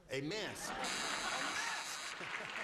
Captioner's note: buzzer